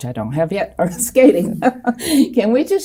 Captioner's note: chuckles